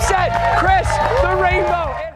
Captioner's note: cheers and applause